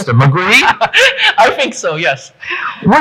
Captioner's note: laughing